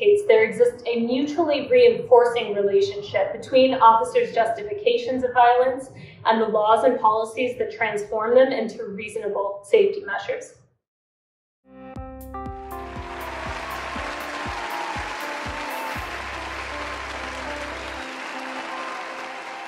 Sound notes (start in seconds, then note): 11.9 upbeat music; 12.7 audience applauding